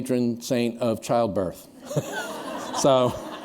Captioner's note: laughter